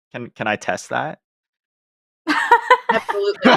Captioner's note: laughter